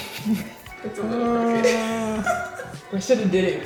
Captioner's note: laughing